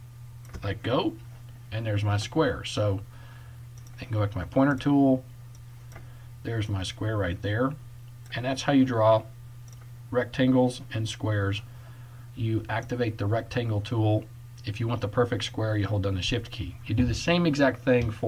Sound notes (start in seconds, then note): 3.7 click